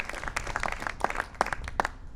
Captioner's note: applause